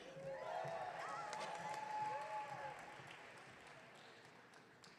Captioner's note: audience cheering